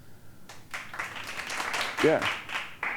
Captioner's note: applause